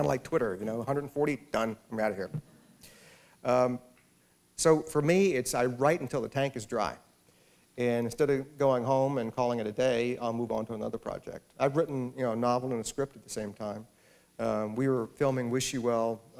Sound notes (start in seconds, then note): none